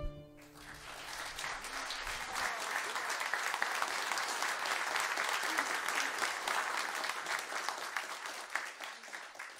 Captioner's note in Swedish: applåder